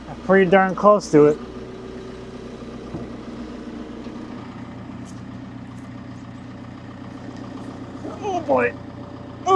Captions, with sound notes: Pretty darn close to it. (lift whirring) Oh, boy.